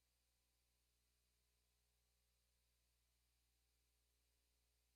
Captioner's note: none